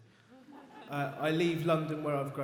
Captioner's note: audience laughs